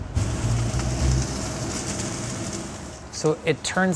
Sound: meat sizzling

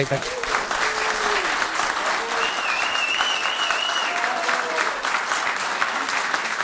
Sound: applause

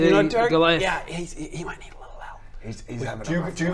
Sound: whispering

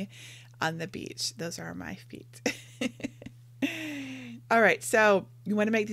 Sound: laughing

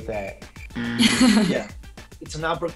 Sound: buzzer; Georgina laughs

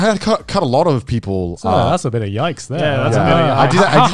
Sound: all laughing

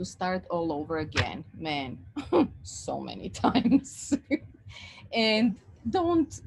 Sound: laughs

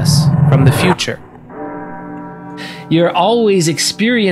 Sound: A funeral bell rings

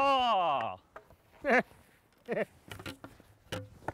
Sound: taunting Laughter

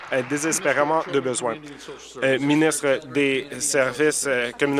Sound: applause

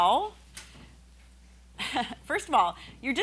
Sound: laughing

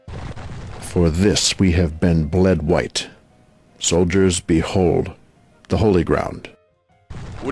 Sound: unemotional delivery

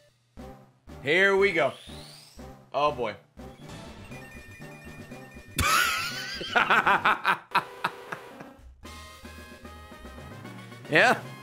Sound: laughs

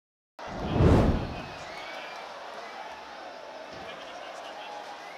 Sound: crowd chattering

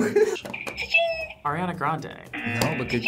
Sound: both laugh; buzzer rings; buzzer

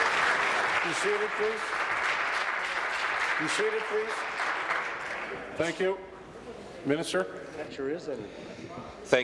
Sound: applause

